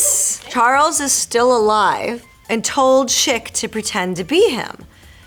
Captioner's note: Marisol reading fan letter aloud